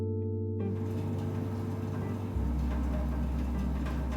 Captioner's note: machine noise